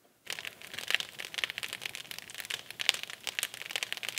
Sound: fire crackling

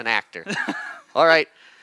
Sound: laughs

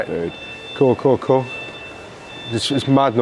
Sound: shrill beep continues

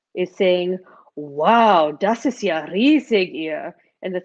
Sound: speaking foreign language

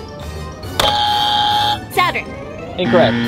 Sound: buzzes

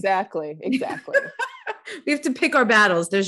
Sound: laughing

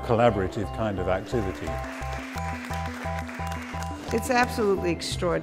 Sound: audience clapping

